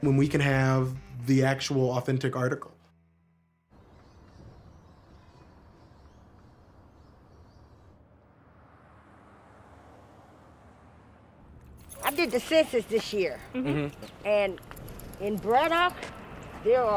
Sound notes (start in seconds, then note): 3.7 birds chirping; 8.0 car whooshing